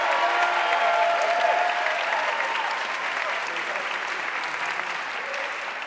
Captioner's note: audience cheering and applauding